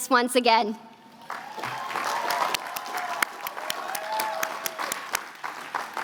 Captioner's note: applause